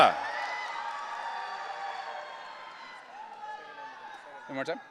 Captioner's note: audience cheering